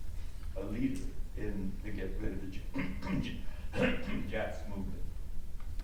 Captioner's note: clears throat